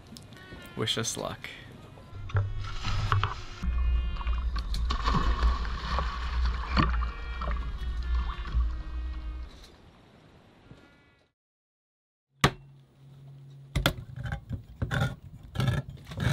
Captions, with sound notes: wish us luck [water splashing] [trumpet music playing]